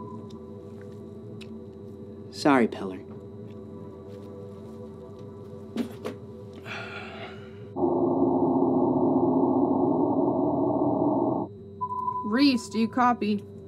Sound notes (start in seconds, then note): 6.6 Babcock sighs; 8.0 ominous music